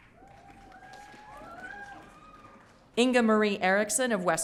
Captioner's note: audience cheering